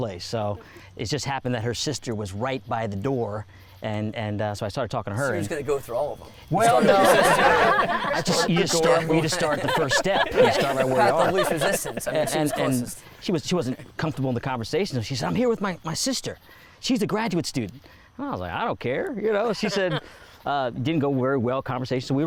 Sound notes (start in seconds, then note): 6.3 all laugh; 7.7 all continue laughing